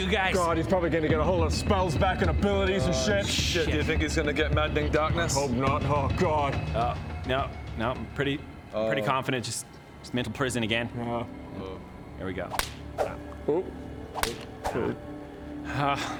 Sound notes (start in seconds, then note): 12.5 slap; 12.6 swoosh; 14.1 crack; 14.2 woosh